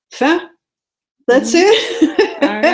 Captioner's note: laughs